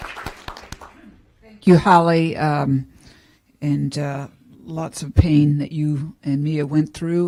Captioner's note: applause